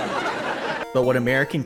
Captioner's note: audience laughter